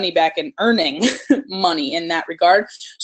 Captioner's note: laugh